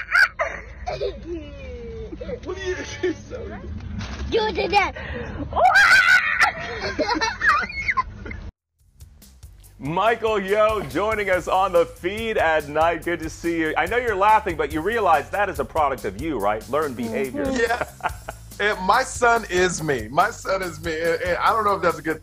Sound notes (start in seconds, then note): 8.1 laughter